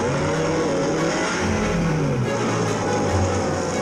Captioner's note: boat revving